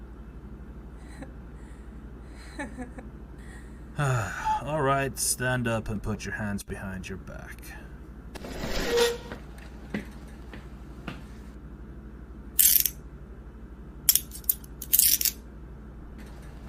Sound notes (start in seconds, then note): 0.2 Jessica lets out a pathetic laugh; 8.3 chair scrapes